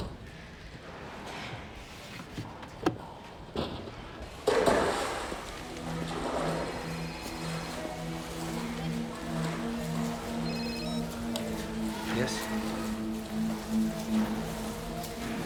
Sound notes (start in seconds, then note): 1.0 sighing; 6.0 cellphone rings; 6.0 suspenseful orchestral music